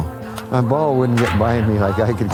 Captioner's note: crack of baseball bat